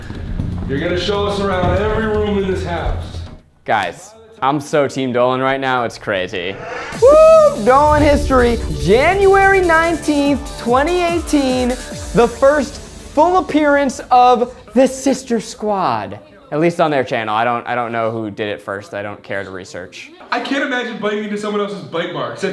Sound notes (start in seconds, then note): 7.0 cheering